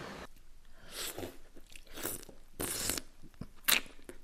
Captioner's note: man slurping